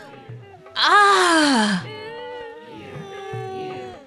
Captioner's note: orgasm